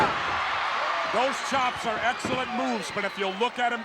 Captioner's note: applause